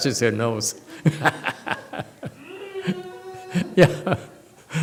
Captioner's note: laughs